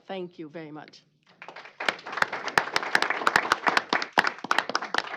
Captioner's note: applause